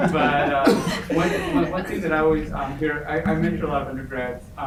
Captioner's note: group laughs